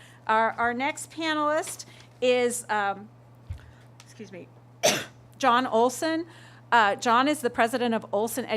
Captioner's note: coughing